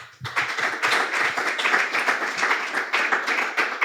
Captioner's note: the crowd applauds